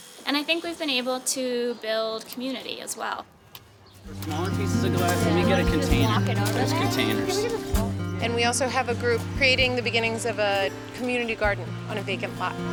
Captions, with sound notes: >> And I think we've been able to build community as well. [ Background Conversation ] >> And we also have a group creating the beginnings of a community garden on a vacant lot.